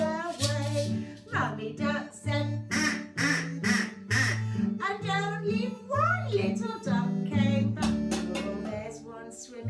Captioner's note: quack, quack, quack, quack